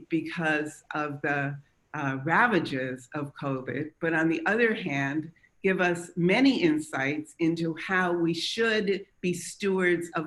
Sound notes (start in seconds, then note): none